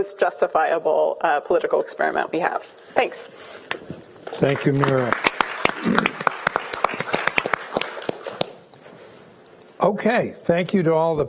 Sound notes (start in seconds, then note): 4.3 applauding